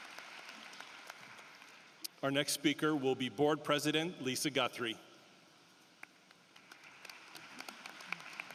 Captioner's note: applause